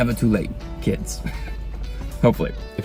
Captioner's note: chuckles